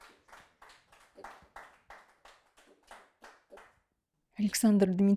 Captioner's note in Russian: аплодисменты